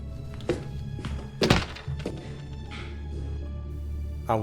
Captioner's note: door slam